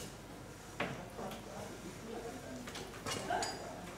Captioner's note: quiet murmuring